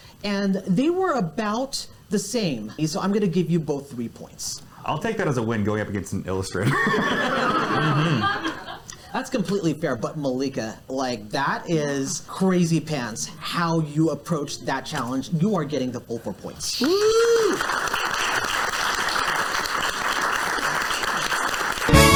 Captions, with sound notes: and they were about the same, so I'm gonna give you both three points. I'll take that as a win, going up against an illustrator. (audience laughs) That's completely fair, but Malika, like, that is crazy pants, like, that is crazy pants, how you approached that challenge. So you are getting the full four points. (audience applauds)